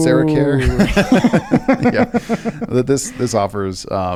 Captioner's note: both laugh